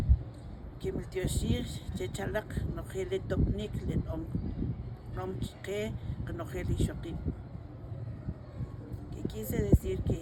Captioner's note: speaking in Kʼicheʼ